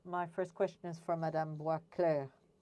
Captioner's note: speaking French